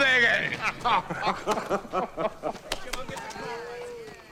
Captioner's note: both laughing